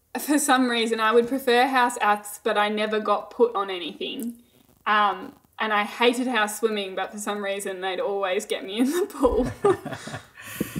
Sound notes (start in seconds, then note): 9.3 both laughing